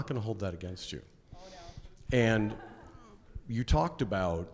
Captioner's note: laughs